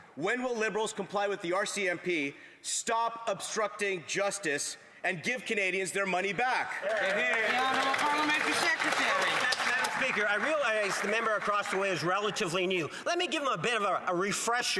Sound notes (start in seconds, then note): 9.7 some Applause